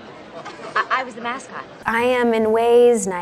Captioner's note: girl laughing